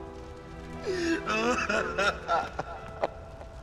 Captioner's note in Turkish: Ağlıyorlar